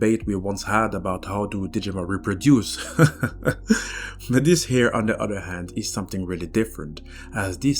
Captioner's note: laughs